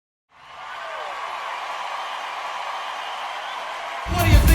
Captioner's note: audience yelling